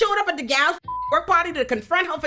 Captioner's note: beep